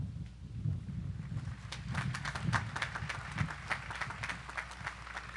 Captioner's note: audience applauding